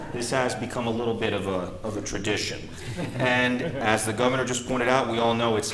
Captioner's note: laughter